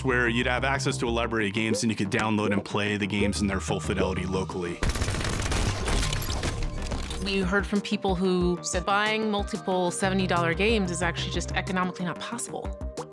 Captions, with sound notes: where you'd have access to a library of games and you could download and play the games in their full fidelity locally. [GUNFIRE] We heard from people who said buying multiple $70 games is actually just economically not possible.